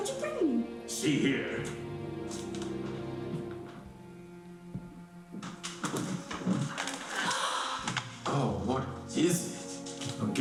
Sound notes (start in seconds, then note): 2.1 soft music; 6.7 gasping